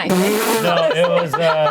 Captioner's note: laughs